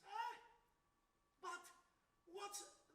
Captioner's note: man yells